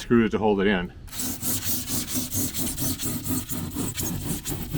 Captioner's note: foam scraping